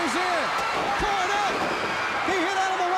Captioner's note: crowd cheering